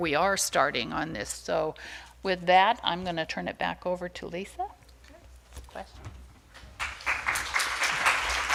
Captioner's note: applause